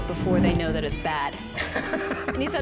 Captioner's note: laughs